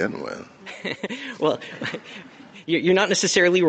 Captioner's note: laughter